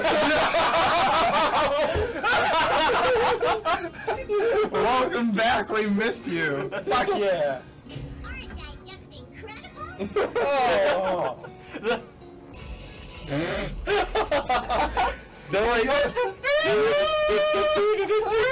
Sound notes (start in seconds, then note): 0.0 they all crack up; 10.0 they laugh again; 13.5 laughs